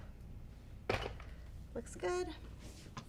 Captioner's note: iron box thudding